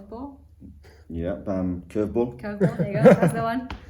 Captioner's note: laughs